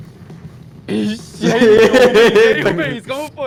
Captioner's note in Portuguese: Risadas